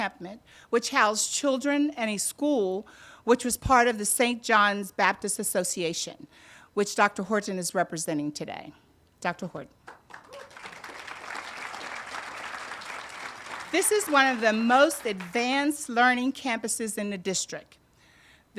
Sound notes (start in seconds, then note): 9.9 audience applauding